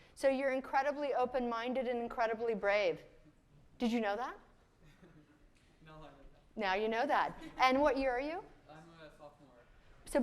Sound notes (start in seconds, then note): 4.8 chuckles; 7.4 chuckles